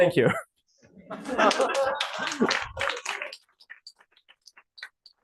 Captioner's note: laughter, applause